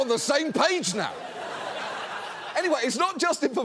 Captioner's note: audience laughs